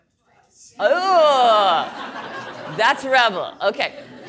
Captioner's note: audience laughing